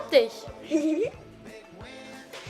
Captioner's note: giggles